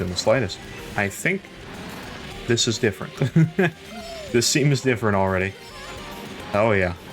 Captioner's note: laughs